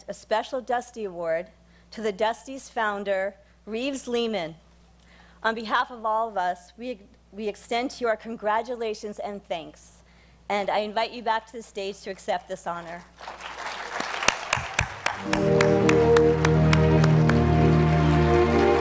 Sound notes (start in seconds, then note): 12.8 applause; 15.1 gentle music